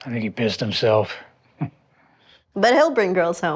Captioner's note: laughs